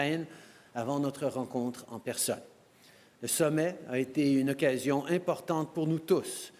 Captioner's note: speaking french